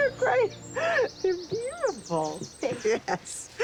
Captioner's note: laughing